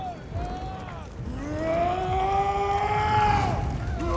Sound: shouting

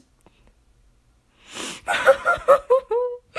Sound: breathes in intensely; cries like a baby

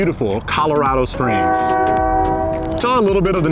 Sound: car honking

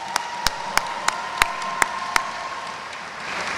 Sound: audience cheers

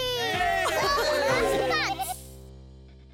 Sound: cheering

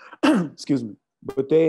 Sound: clears throat

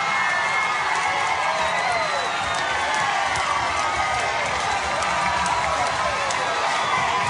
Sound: applause

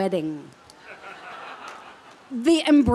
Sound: laughter

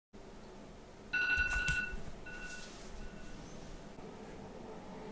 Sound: alarm ringing

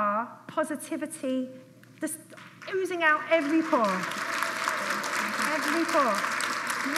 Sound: applause

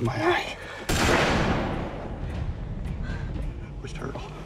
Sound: gun blasting

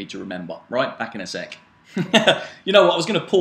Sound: laughs

